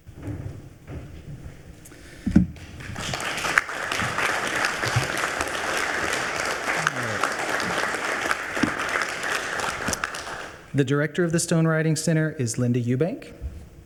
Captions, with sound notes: (attendees applauding) The Director of the Stone Writing Center is Linda Eubank.